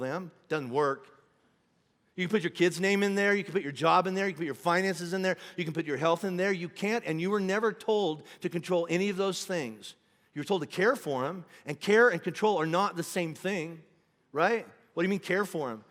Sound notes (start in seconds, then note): none